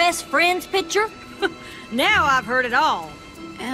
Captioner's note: chuckles